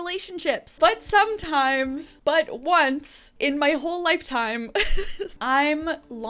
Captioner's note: laughing